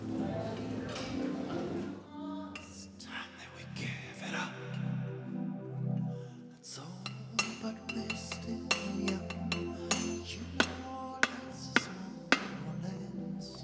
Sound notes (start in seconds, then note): 7.8 hammer clanging